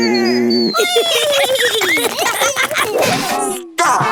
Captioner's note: laughter